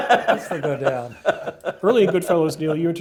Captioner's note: laugh